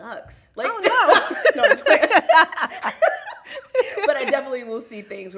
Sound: both laugh

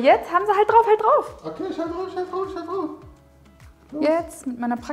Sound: high-pitched voice

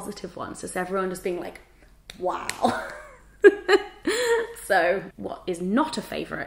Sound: chuckles

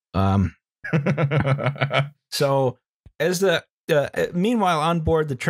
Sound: laughs

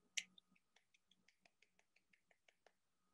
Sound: clapping

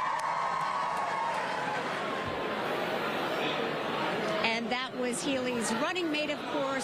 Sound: applause

